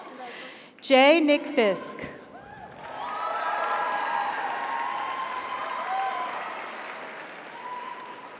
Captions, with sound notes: - Congratulations. - Jay Nick Fisk. (audience applauds) (audience cheers)